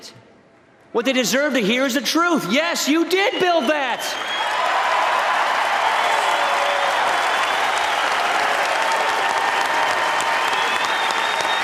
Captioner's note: applause